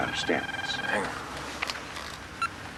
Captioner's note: phone rings